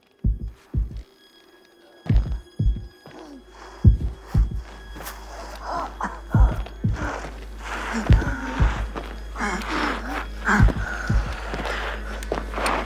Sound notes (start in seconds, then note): 0.2 heartbeat thudding rapidly; 0.2 somber music; 5.7 Agoston grunting